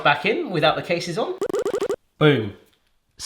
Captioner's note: popping